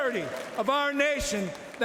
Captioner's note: cheering and Applause